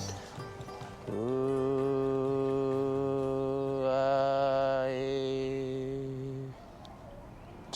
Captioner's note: chanting